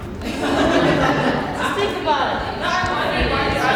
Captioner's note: mumbles and laughs